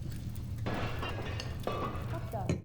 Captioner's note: crockery clattering